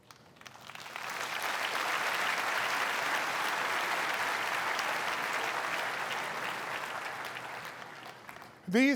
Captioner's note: applause